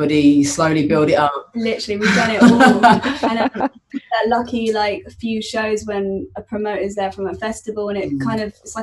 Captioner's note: laughter